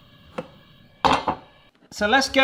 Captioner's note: gas hissing; stovetop clicking; pan clatters